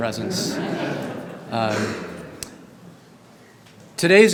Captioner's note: group laughing